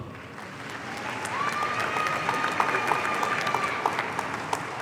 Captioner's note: audience applauding